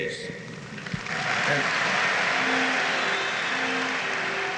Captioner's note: audience cheers and applauds